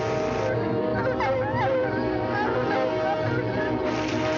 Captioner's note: dogs barking